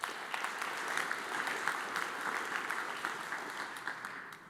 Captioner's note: audience applauds